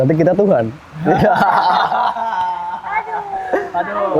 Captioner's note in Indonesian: ketawa